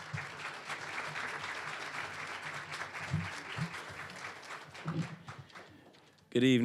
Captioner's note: applause